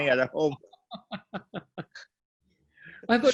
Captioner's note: both laugh